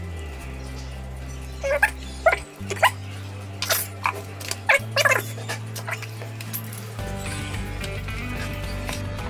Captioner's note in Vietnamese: cười